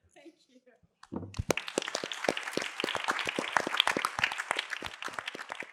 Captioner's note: applause